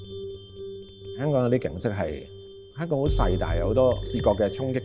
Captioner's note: Cantonese